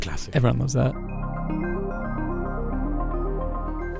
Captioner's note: voiceover